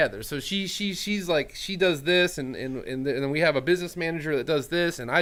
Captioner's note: none